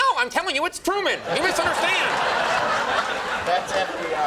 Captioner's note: audience laughing